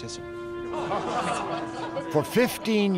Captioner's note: <i> laughter</i>